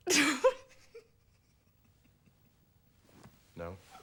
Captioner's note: laughs